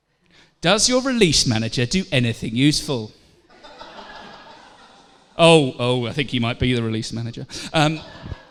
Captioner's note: laughter; laughter